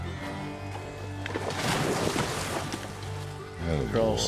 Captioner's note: splash